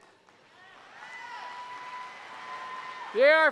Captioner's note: applause